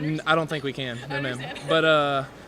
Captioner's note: laughs